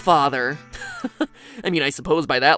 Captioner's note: Cười